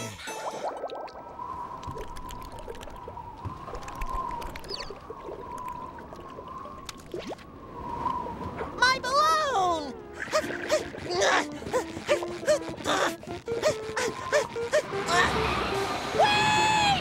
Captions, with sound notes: My balloon! [gasping] Wait!